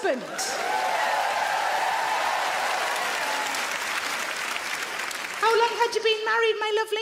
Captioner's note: audience clap; audience cheer